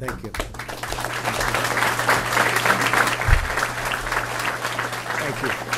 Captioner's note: applause